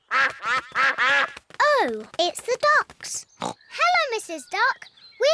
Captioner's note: quacking